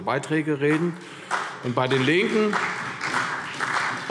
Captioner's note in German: Beifall CDU und BÜNDNIS 90/DIE GRÜNEN